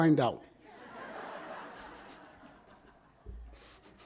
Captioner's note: audience laughs